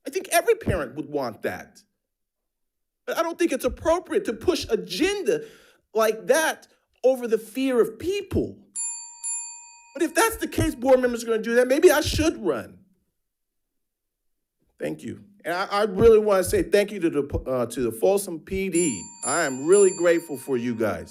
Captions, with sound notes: I think every parent would want that. But I don't think it's appropriate to push agenda like that over the fear of people. (bell ringing) But if that's the case, board members are gonna do that, maybe I should run. Thank you. And I really wanna say thank you to the Folsom PD. I'm really grateful for you guys.